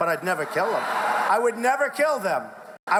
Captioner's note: laughing